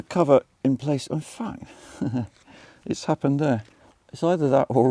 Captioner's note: chuckles